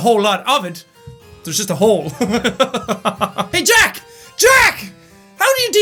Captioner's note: laughs